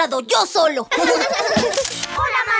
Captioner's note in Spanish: Risas